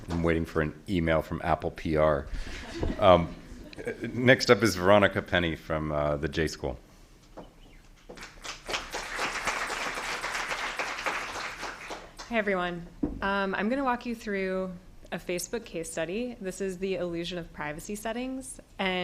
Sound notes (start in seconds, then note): 8.1 applause